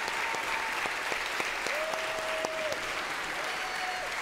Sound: congregation cheering

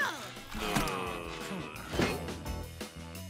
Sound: groaning

